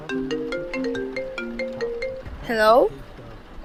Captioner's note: Mrs Venus’ phone rings